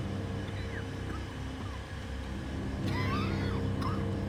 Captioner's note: Aaron coughing